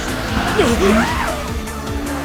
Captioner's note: surprise breath intensifies x2